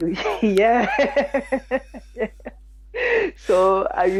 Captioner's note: laughs